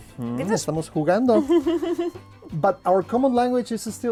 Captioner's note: speaking Russian; speaking Spanish